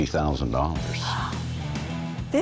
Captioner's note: gasps